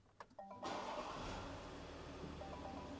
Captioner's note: starts car